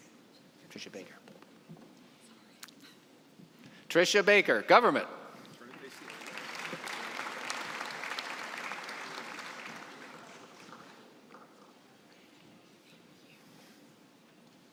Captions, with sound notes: Tricia Baker, government. (applause)